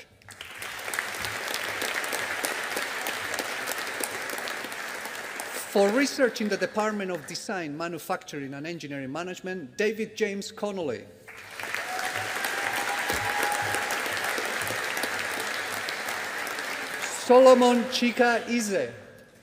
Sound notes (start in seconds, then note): 0.2 audience applauding; 11.2 audience applauding